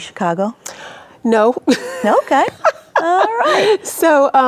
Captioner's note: laughs